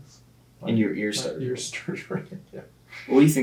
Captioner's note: laughing